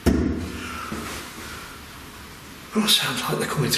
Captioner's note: loud knocking